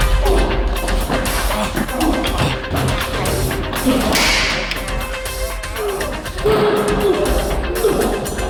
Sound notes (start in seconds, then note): 3.4 gun clicks; 5.8 grunting continues